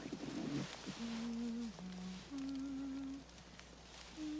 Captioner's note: Mandy humming